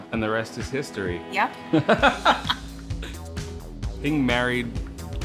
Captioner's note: laughter